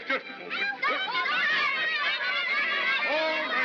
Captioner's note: children yelling